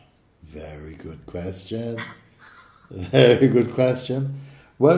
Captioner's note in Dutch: lacht